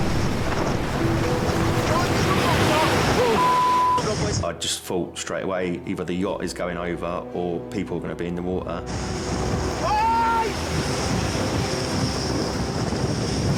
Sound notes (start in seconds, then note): 0.1 intense music; 3.3 beep; 9.8 lifeguard screaming; 11.2 intense music